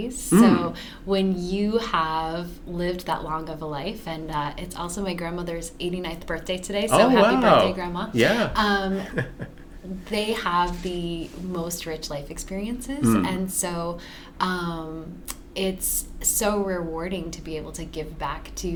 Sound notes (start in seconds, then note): 8.1 chuckles